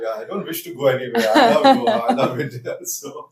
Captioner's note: laughs